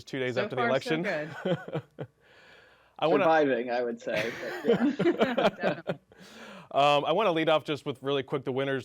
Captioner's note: laughter